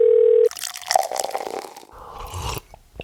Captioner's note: phone dialing; liquid pouring; loud sipping